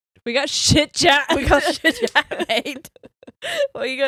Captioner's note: laughs